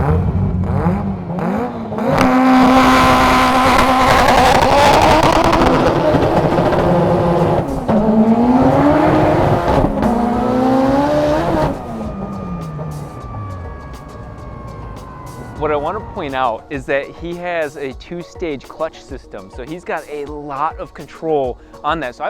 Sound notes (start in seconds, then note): 0.3 car revving; 3.0 car roaring; 8.5 car roaring continues